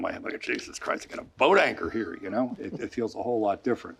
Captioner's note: laughing